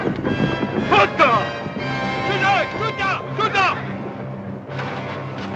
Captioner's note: men speaking native language